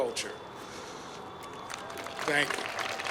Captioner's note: applause